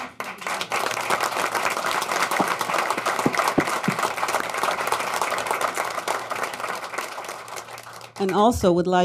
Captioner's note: applause